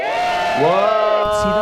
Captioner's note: cheering